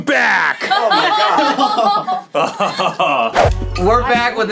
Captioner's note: all laugh